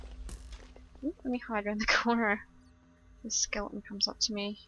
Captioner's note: arrow firing